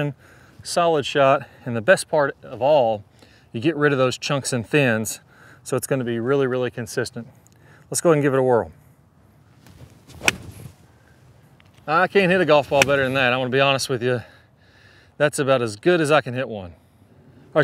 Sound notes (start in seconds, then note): 10.1 club smacks